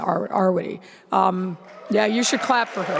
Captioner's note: audience applauding